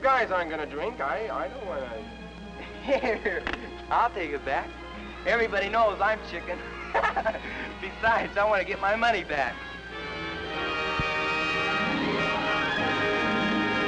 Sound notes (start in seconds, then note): 6.4 laughs; 9.7 dramatic music